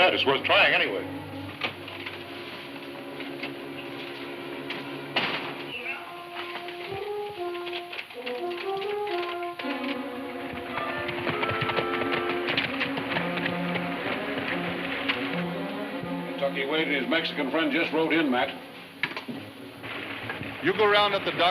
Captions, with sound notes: - Well, you may be right in that. It's worth trying anyway. (ominous music playing) (horses galloping) - Kentucky Wade and his Mexican friend just rode in, Matt.